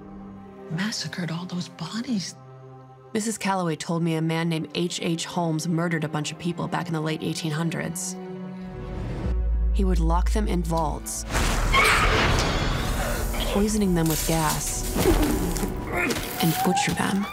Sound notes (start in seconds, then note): none